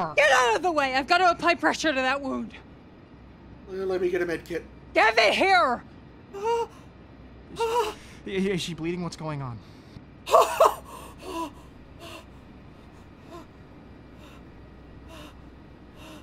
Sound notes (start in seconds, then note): 6.6 groans and whimpers; 10.5 Rhys gasping for breath